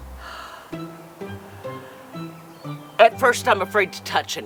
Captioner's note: sighs; dramatic music